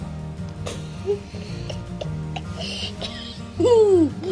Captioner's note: laughter